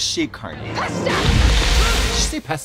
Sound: shouting

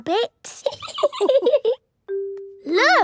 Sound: laughing

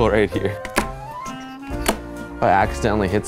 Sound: knife thudding

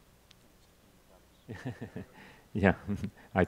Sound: chuckles

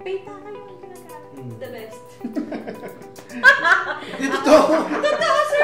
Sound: laughs

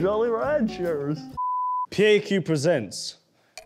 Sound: beep

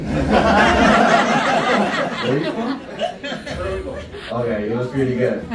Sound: laughter

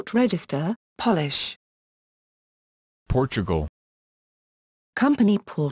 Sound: Polish

